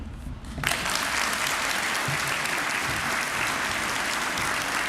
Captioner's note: applause